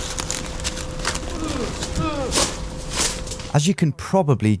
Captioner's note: leaves rustling